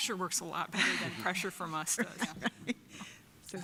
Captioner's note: chuckling